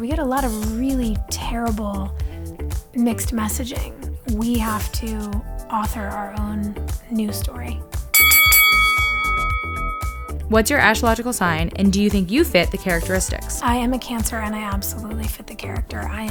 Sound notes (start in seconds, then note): 8.1 bell dings